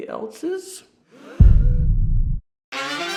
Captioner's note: voices gasping; upbeat music